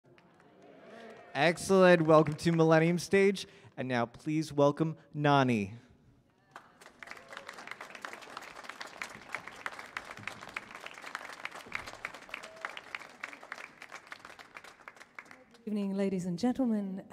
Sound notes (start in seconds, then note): 7.0 applause